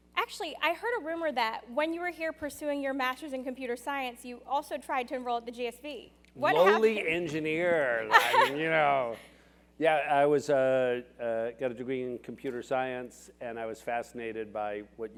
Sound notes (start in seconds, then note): 8.1 laugh